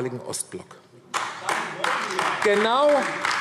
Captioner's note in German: Beifall AfD